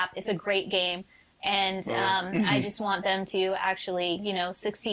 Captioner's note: clears throat